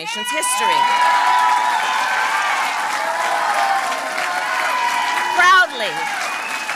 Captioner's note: applause